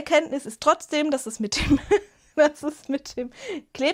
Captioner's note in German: Gelächter